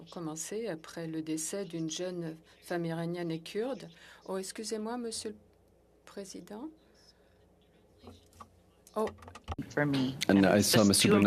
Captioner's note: speaking French